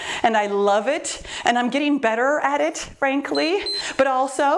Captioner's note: timer beeps